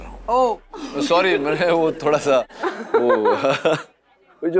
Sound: laughs

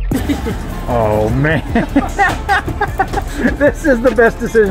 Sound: laughs

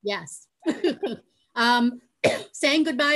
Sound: laughing

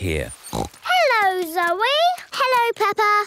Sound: snorts

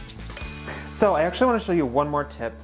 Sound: timer dinging

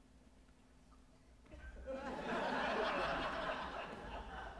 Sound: audience laughing

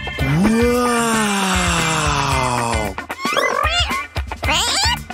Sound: meows

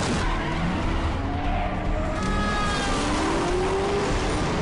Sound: car horn blares

